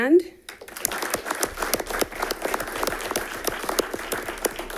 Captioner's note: audience applauding